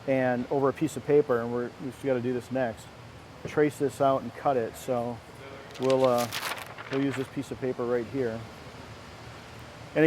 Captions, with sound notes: And, over a piece of paper, we just gotta do this next, trace this out and cut it. So we'll use (rustling) this piece of paper right here.